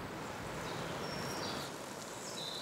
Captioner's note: gentle birdsong